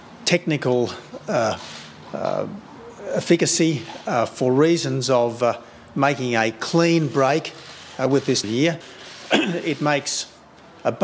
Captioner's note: clears throat